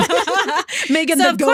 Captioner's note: laughing